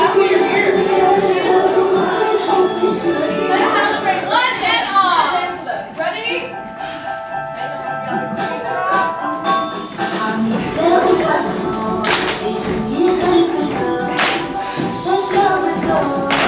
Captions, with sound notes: - Let's celebrate, one and all. - Let's get ready to dance, ready? (Christmas music) (all clapping)